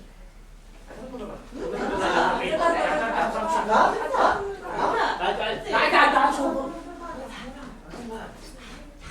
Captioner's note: sailors arguing in grammelot